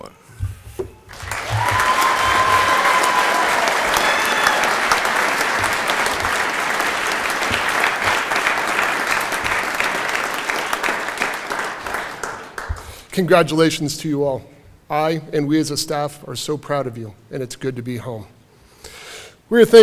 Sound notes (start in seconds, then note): 3.2 applause; 3.8 cheering